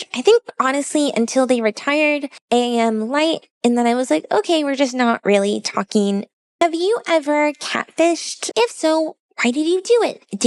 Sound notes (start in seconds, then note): none